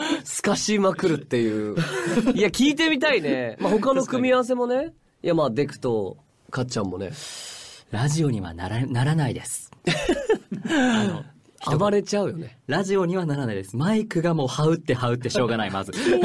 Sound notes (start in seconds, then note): 1.7 laughs; 9.9 cuter laugh